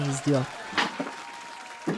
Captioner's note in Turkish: Alkış sesi